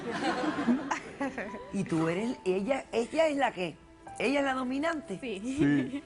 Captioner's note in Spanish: Risas